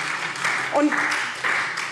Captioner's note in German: Beifall SPD